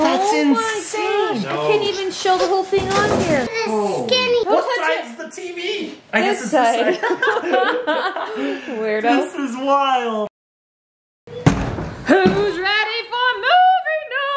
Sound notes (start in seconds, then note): 6.8 laughing; 11.3 foot bangs against door